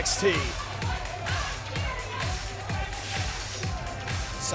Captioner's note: crowd chatter